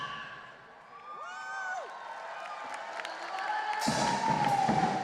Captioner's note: audience cheering and applauding; lively percussion music